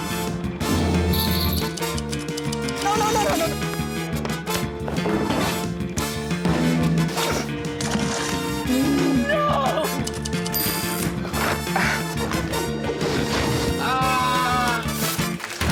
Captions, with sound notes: [drumming and jingling] No, no, no, no, no! No! [typewriter dings] Aah!